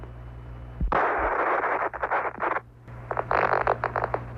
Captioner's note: static